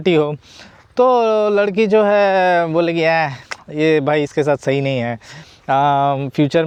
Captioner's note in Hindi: नाक से की जाने वाली आवाज़